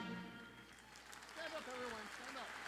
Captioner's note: audience applauding